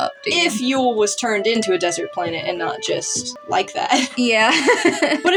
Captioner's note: laugh; snicker